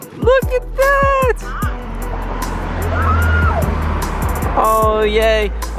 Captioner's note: excitedly screaming in the distance